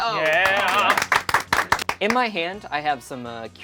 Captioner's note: claps